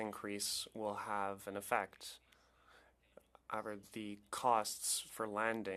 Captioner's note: speaking French